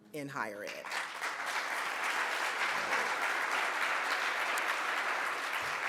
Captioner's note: audience applauds